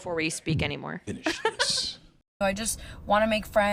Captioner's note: dramatically